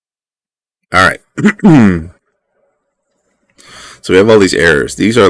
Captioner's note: clears throat again